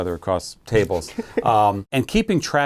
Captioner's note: laughing